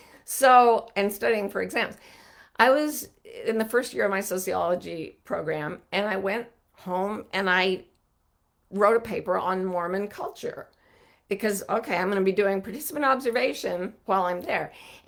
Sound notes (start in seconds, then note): none